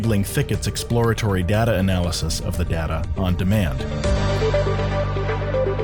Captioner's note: voiceover